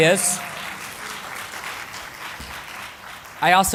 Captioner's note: applause